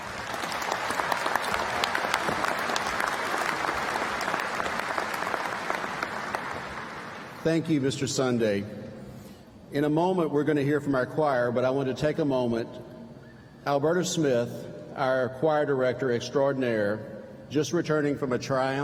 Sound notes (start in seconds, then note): 6.3 applause